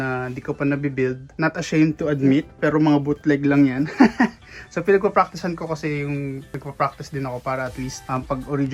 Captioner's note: laughs